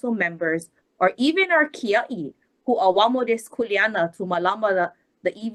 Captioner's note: speaks Hawaiian